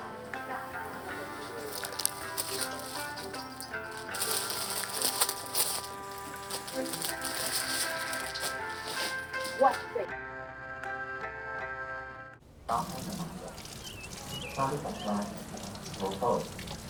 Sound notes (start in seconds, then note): 12.6 water running; 14.6 background radio chatter